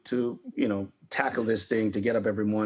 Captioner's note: none